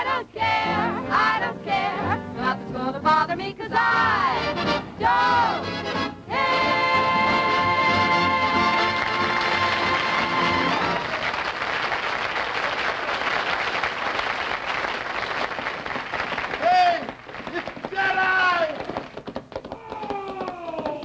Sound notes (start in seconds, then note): 6.7 applause; 16.4 horse galloping